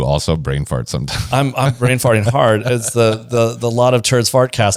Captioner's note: laughs